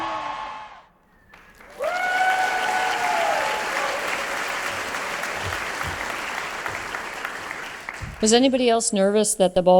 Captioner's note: applause